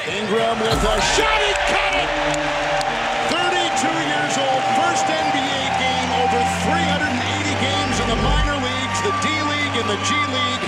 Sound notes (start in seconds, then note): 2.4 crowd cheering